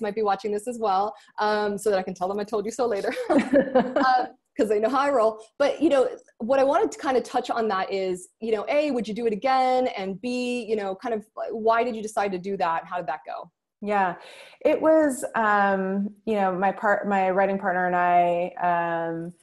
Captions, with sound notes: some of our clients might be watching this as well. So that I can tell 'em I told you so later. (both laughing) 'cause they know how I roll, what I wanted to kinda touch on that is, A, would you do it again? And B, why did you decide to do that and how did that go? - Yeah. It was... My writing partner and I